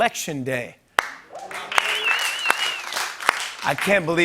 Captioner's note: applause